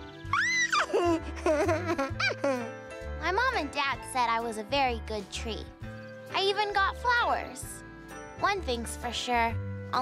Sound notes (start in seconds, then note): 0.2 squeals, giggles; 1.1 baby chatter